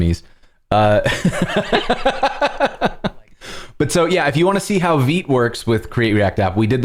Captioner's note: laughter